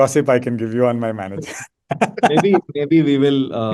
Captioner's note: laughs